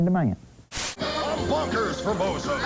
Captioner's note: static